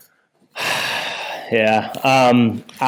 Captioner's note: sighs